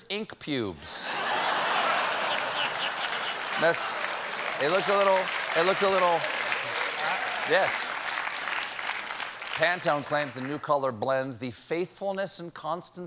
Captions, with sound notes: THEY SHOULD HAVE CALLED IT MONSTER'S INC. PUBES. ( LAUGHTER ) YES. PANTONE CLAIMS THE NEW COLOR BLENDS "THE FAITHFULNESS AND